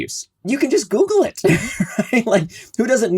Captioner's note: laughs